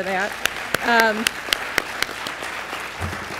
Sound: applause

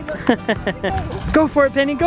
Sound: laughs

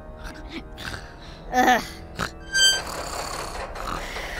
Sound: groans

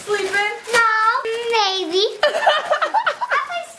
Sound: dad laughs

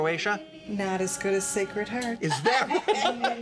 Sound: laughter

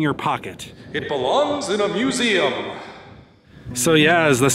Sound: echoing

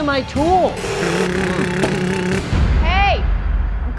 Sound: imitating saw

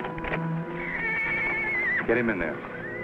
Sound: Champion neighs

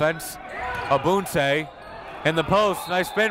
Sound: whistle

